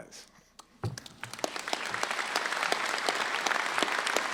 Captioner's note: applause